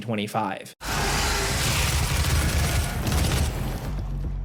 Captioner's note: gun firing